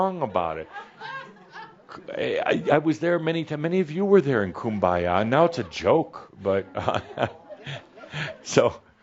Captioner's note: some laughter; he chuckles